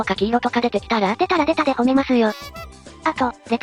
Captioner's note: laughs